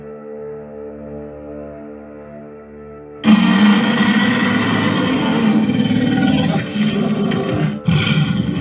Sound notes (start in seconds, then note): 3.2 tyrannosaurus Roaring